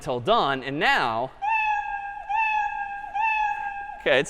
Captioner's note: meowing